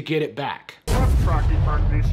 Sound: Kermit the Frog voice; dramatic music

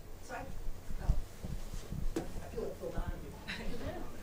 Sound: speaking off mic

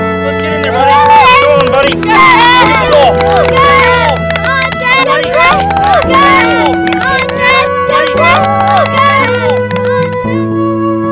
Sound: cheers

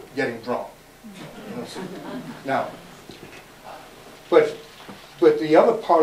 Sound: audience murmurs

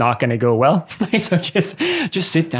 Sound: chuckles

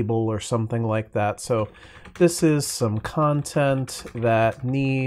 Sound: typing sounds

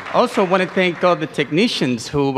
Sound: applause

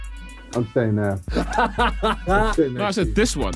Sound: laughing

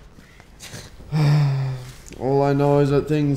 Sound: sigh

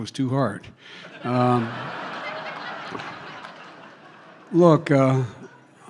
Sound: laughter

